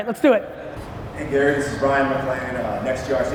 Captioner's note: muffled by echo